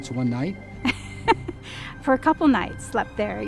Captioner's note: laughs